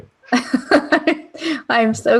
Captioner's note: laughter